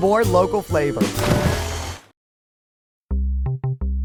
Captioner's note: water splashing; upbeat music